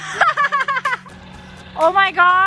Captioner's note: wheels spinning